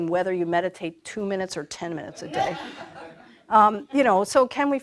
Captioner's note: laughter